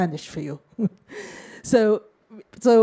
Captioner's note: chuckles